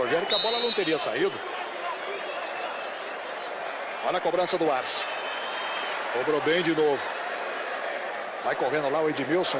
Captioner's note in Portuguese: aplausos